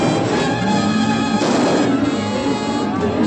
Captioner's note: gunshots